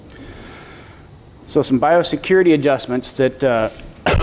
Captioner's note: coughing